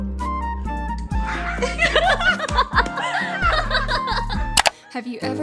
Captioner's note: laughing